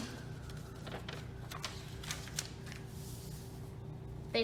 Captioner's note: sounds of unfolding and pressing paper